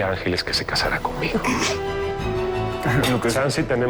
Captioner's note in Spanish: Sonido de risa contenida